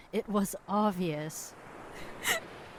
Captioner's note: sobs